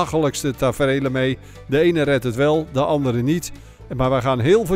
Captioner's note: voiceover